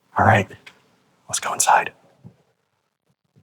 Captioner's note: whispering